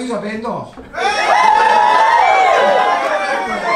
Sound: cheers

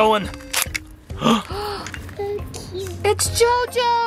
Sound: gasps

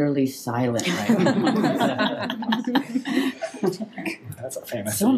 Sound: people laughing

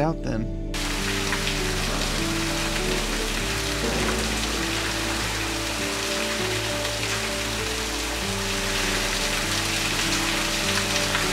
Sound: falling water

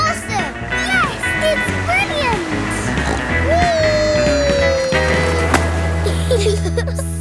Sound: snorts; giggle

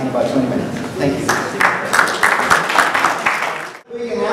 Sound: applause

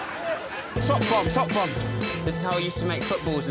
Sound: Sarah laughing

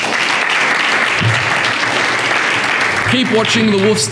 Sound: clapping

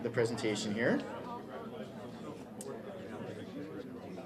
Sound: people talking

